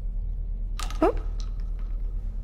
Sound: shotgun shells clatter

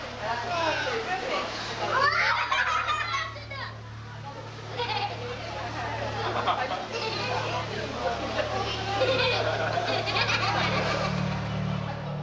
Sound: laughter

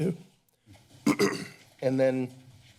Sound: clears throat

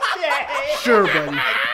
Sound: laughs hysterically

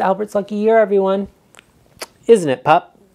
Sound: lips smacks

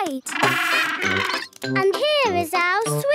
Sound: honking

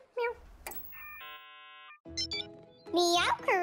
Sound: phone beeping; monitor beeps

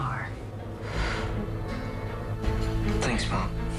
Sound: sighs

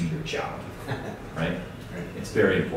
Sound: laughing

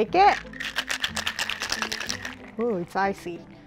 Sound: mocktail rattling

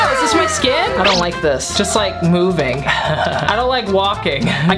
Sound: laughs

